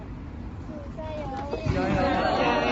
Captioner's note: crowd